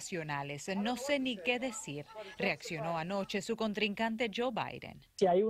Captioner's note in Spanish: habla en ingés